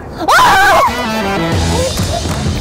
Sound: screaming; upbeat music

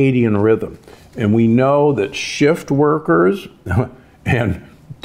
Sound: chuckles

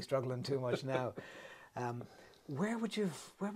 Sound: laughs

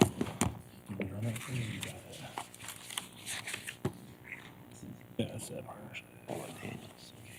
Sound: indistinct chatter

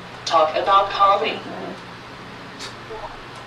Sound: voiceover

